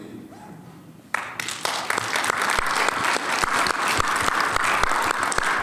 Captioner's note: audience clapping